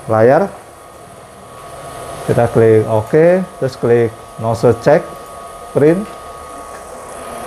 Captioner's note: printer machine noise